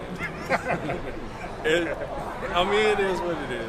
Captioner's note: men laughing